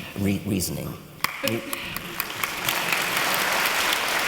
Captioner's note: applause